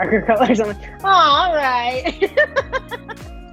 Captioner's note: laughing